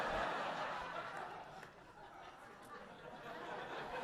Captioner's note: audience laughing